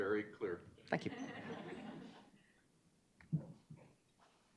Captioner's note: audience chuckling